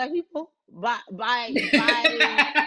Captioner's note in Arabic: تضحك